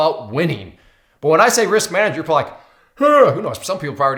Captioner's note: yawns